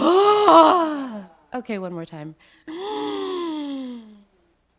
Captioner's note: breaths; breaths